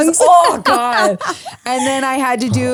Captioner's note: laughs